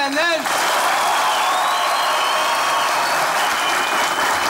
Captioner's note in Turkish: Alış ve ıslık sesleri